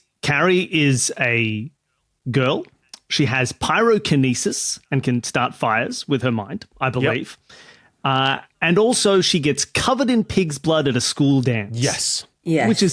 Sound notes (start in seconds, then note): none